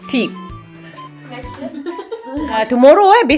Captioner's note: speaking German